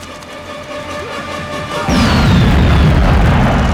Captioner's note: yelling